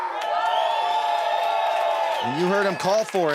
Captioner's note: audience cheers